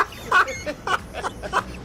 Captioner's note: laughs